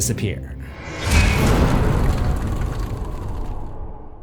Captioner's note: impact